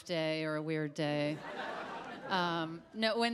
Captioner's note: audience laughs